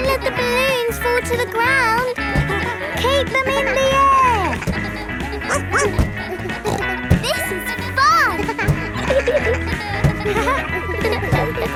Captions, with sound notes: Don't let the balloons fall to the ground. Keep them in the air! (BARKS) (SNORTS) This is fun!